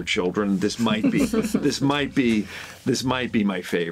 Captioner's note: all chuckling